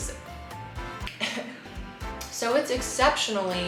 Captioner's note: coughs